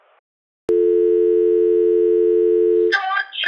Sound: dial tone

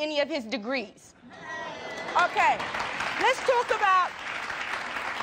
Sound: crowd cheering

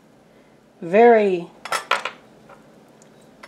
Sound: clonk

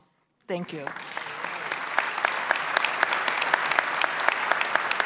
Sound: audience applauds

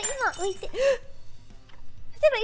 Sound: gasp

